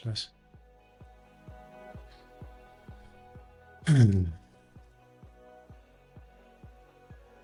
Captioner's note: laughs; gentle music